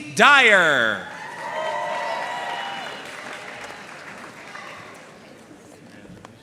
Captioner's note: audience cheering and applauding